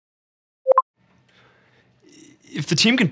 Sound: ping

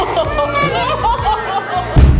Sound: beep; exclaims

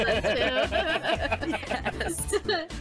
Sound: laughing

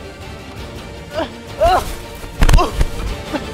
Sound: grunting

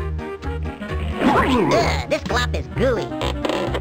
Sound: groans

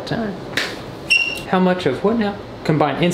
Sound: squeaking

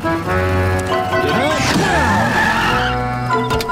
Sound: grunting, tires squealing

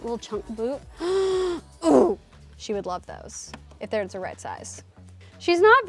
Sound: gasps

